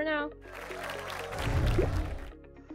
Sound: applause

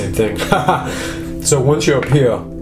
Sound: laughs

